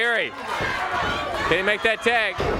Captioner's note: crowd cheering